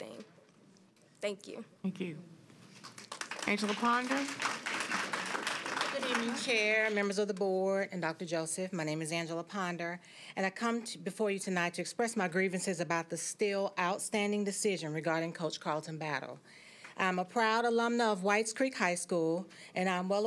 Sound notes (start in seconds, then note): 6.7 applause